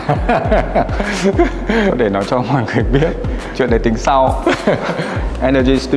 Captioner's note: laugh